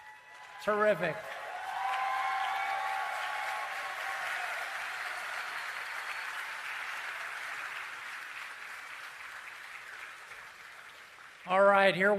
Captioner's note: cheering and Applause